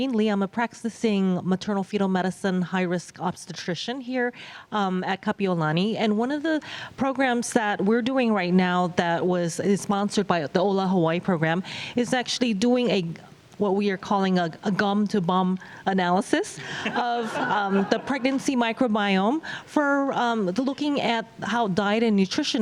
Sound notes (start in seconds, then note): 16.7 laughter